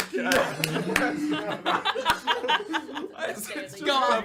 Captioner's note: laughter